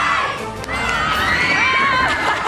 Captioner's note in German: Jubel